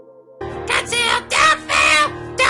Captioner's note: Toad Screaming